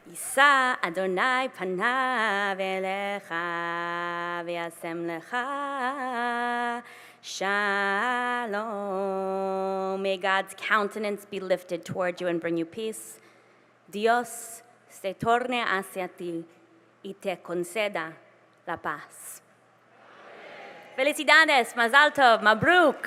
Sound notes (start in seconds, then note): 4.9 non-english singing; 13.5 speaking spanish; 21.6 spanish; 22.1 hebrew